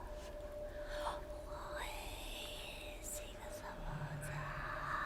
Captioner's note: an etheral voice can be heard